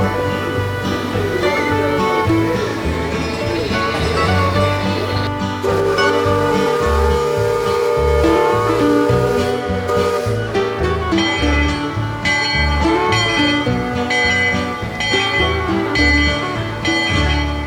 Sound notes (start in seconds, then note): 2.0 train bell ringing; 5.6 steamboat whistling; 12.2 steamboat bell chiming